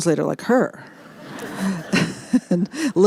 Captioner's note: laughter